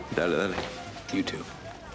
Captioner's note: speaking spanish